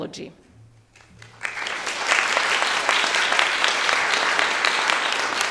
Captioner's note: audience applauding